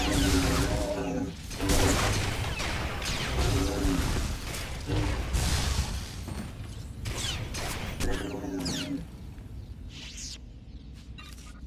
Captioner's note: gunshots